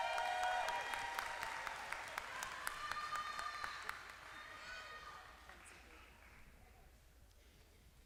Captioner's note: applause